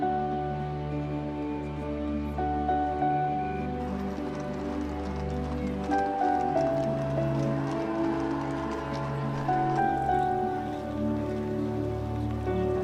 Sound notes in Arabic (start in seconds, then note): 2.8 أصوات الكاميرات